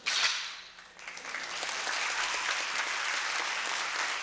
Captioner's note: applause